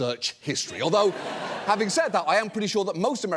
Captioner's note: audience laughing